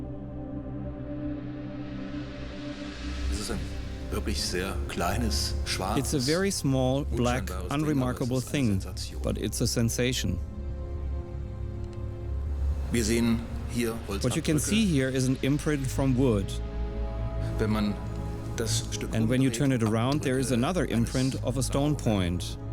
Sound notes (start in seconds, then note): 0.3 suspenseful music; 4.1 speaking in German; 6.2 voice-over